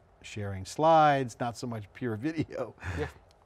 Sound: laughing

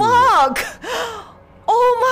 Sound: gasp

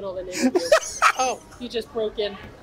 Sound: laughs

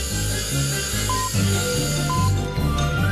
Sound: electronic beeping

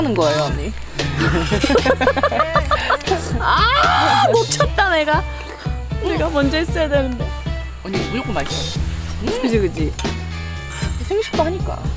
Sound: laughs

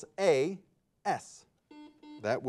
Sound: buzzer beeping

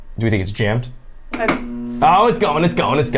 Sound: machine clicks

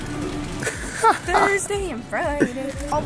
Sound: laughs

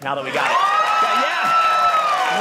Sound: audience cheering

